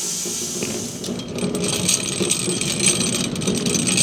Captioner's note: saw rumbles